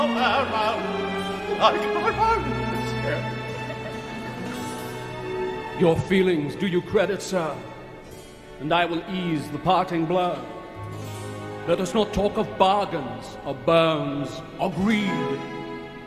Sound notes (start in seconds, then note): 2.3 audience laugh